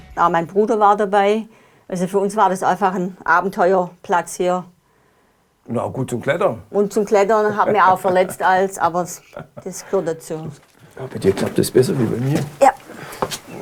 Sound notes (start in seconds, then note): 7.4 laughter